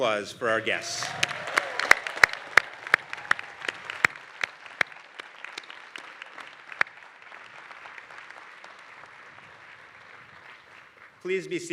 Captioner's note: applause